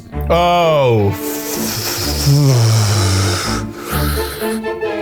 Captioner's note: exhales heavily